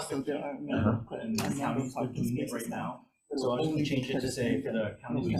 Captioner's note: Senators chattering